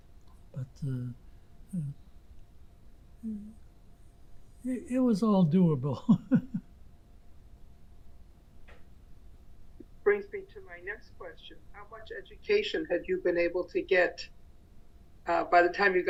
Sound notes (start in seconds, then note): 5.9 laughing